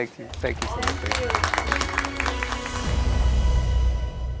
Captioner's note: applause